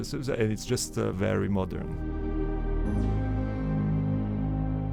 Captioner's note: voiceover